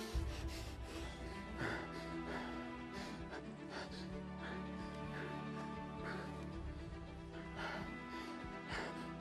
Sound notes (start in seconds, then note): 1.5 breathing calms